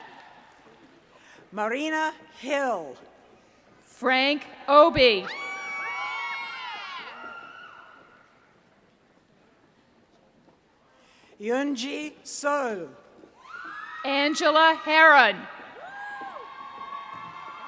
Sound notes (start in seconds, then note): 5.3 cheering